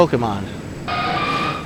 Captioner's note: screeches